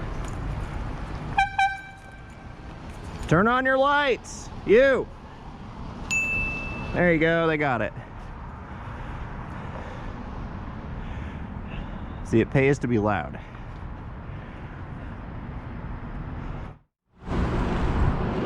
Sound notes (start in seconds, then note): 1.3 air horn; 6.1 ding